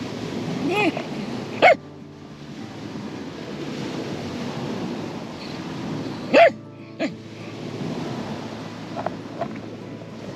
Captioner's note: Zilla barking